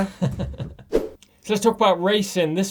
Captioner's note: laughing